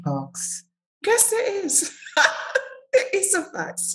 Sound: laughs

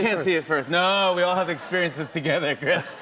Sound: laughter

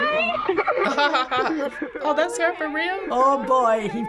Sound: laughs

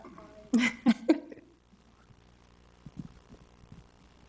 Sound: chuckling

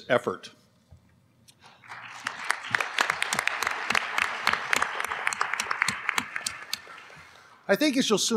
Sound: applause

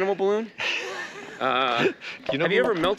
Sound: Kevin laughing

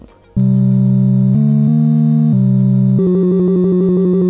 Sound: Donkey Kong sounds

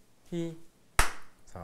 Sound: clap

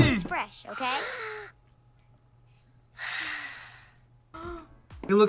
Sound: sighs; gasps

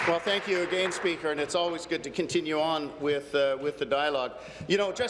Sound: applause

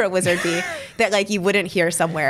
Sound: laughs

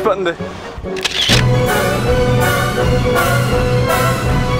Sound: camera snapping

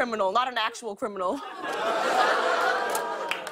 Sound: laughter

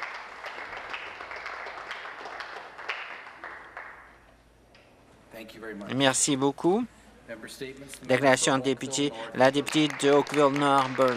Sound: some Applause

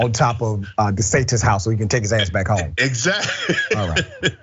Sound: laugh

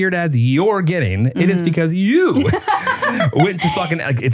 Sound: laughing

